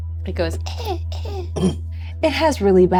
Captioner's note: weak coughs